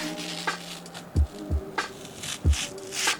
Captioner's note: peeling plastic off computer case